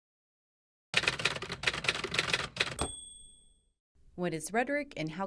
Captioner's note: typewriter keys clacking followed by ding